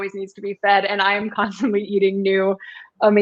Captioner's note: laughter